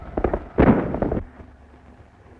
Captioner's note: gunshot